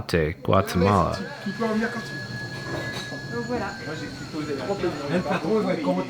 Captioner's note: people speaking in foreign language